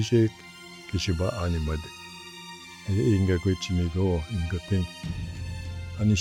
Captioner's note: speaking in Ojibwe language